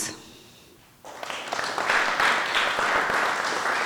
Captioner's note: applause